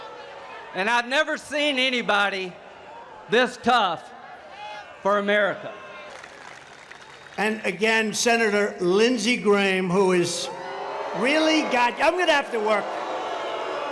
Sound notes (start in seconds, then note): 7.7 loud boos